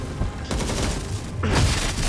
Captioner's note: rifle booms rapidly; electricity crackles